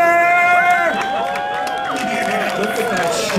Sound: audience cheering

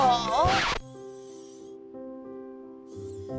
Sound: tablet whirring; gentle light music

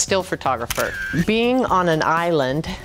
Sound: camera shutters

